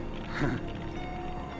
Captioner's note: laughs